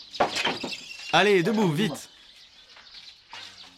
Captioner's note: dzongkha spoken audio